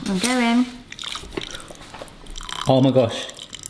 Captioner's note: milk ripples